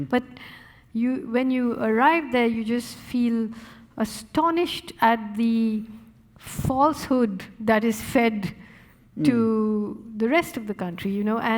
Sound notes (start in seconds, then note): none